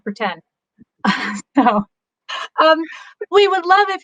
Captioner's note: laughs